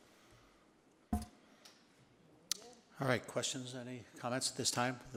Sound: none

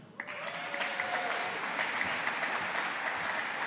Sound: audience applauding

